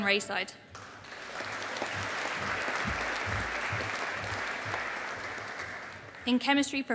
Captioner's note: audience applauding